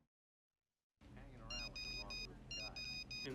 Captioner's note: cell phone beeping